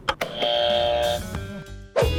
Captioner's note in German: Buzzer richtig